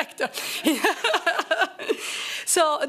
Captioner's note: laughter